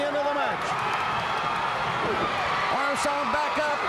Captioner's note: crowd cheering